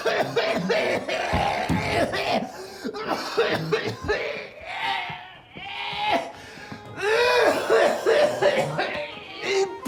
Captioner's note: coughs